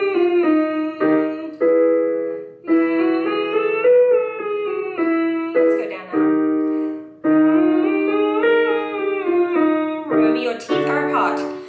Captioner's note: humming